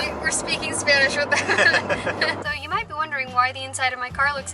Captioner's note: laughter